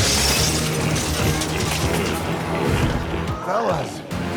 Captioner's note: glass shatters